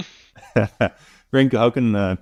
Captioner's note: laughs